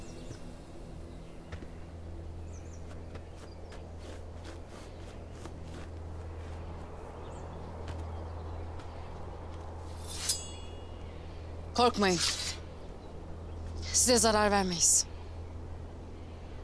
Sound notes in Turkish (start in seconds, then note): 9.8 Uğultu ve kılıç sesi; 9.9 Kılıç sesi